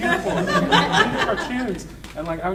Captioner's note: audience laughing